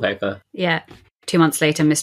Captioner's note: laughs